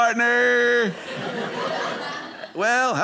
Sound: audience laughing

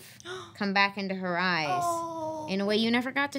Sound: gasps

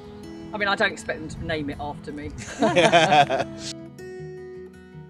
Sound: they laugh

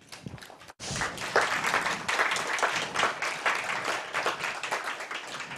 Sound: applause

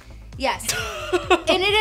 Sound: laughs

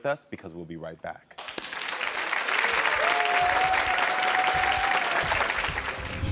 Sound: audience applauds and cheers

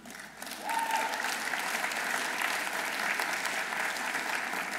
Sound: audience applauding

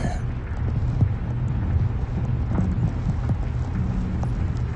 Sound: Static

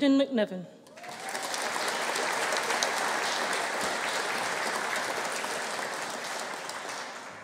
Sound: audience applauding; audience cheering

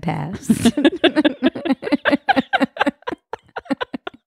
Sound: laughing

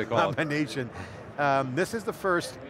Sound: chuckling

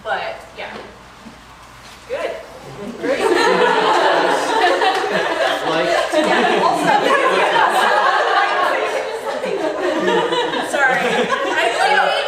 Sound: laughter

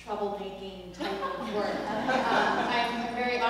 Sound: laugh

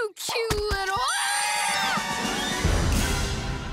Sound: screaming

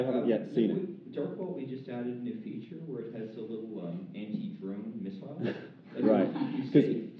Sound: laughter

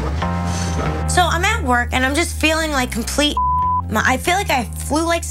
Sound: beep

